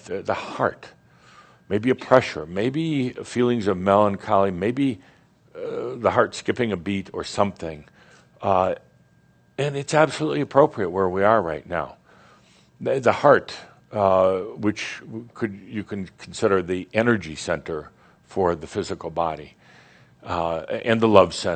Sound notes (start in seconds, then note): none